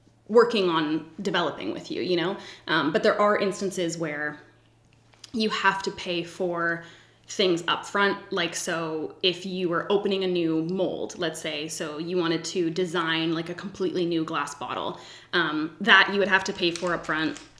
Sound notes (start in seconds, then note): none